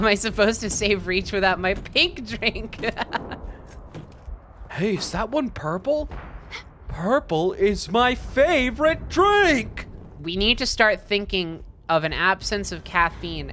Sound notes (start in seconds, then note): 2.8 laughing; 4.8 dude voice